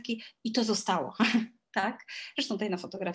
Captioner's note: śmiech